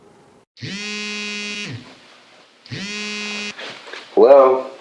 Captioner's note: phone buzzing